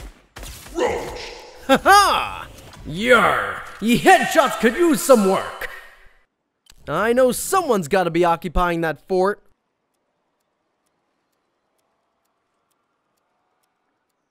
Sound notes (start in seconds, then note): 0.8 laughs